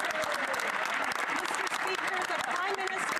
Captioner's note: speaking French